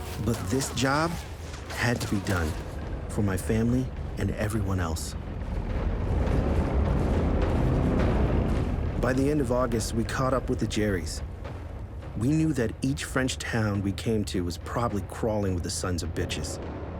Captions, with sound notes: But this job had to be done for my family and everyone else. (engines rumbling) By the end of August, we caught up with the Jerries. We knew that each French town we came to was probably crawling with the sons of bitches.